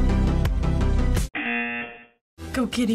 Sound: buzzer

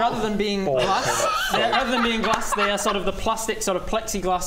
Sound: unsympathetic hysterics

